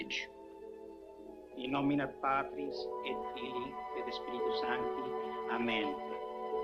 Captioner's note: priest speaks Latin